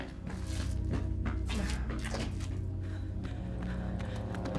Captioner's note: feet clopping; eerie music